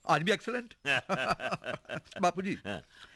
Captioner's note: both Laughing